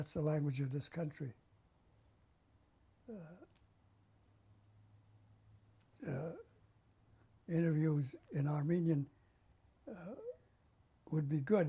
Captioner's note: pauses for 6 seconds